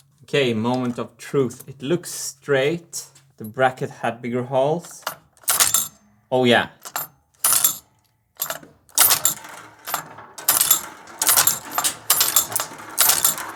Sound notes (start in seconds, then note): 5.5 marbles gates ringing; 7.3 marbles gates ringing